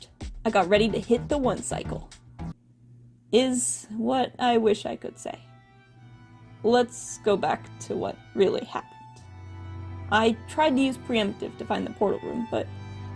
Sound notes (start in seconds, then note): none